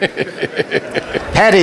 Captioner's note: laughter